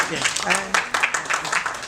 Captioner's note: applause